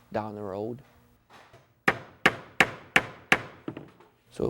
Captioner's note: hammering